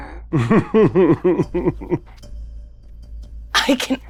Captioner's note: chuckles